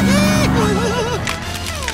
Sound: laughing; clicking

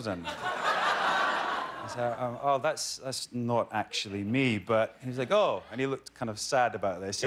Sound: laughter

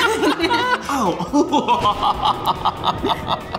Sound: laughter; maniacal laughter

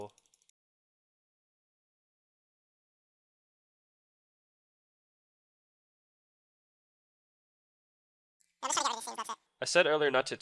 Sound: click sounds

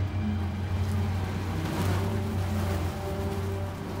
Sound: flies buzzing

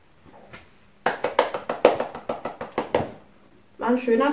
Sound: clapclapclap

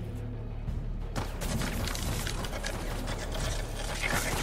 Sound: gun shots

